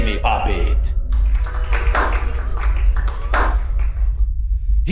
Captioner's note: applause